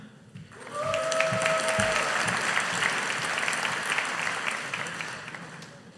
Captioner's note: audience applauding